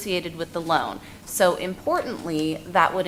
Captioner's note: none